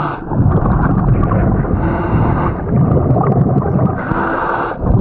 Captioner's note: bubbles gurgling; heavy breathing